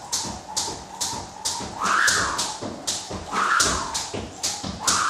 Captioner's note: rope whistling continues